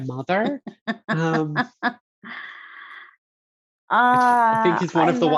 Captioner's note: laughing